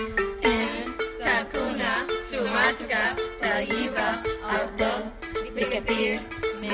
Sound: Arabic

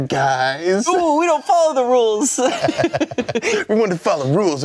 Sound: laughing

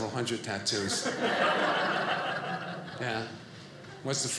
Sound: audience laughing

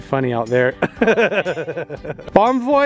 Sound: laugh

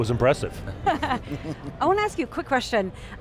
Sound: laughing

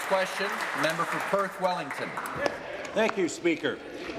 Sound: applause

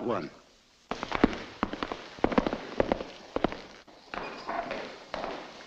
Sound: footsteps echoing

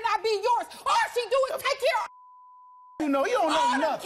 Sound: beep

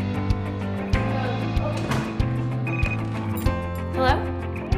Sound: phone ringing

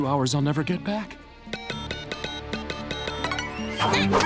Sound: beeping

